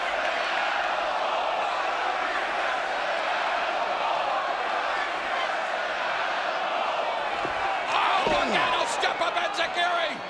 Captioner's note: crowd cheering